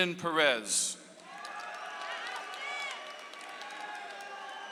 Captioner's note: audience applauds